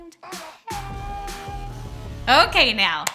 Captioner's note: swaggering music; celebratory noises